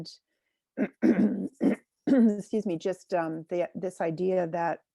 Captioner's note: clears throat